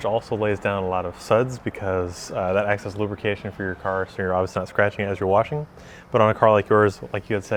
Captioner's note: none